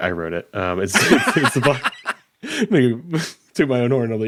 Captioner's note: laughing